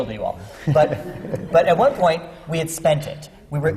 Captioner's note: laughter